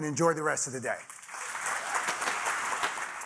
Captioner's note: audience applauding; audience cheering; upbeat instrumental music